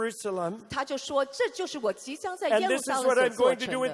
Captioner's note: interpreter speaking in foreign language